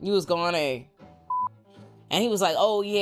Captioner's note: beep